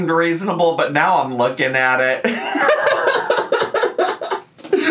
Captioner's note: laughs